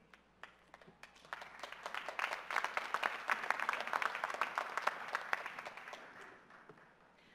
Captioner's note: applause